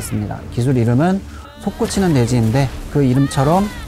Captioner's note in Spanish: Explosión pétrea